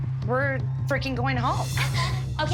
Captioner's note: sobs